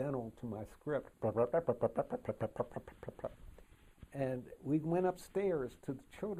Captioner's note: brup, brup, brup, brup, brup,brup